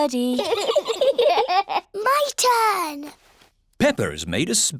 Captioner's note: both giggle